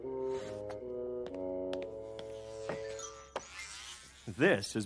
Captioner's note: buzzing noise